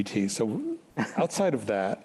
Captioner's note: chuckles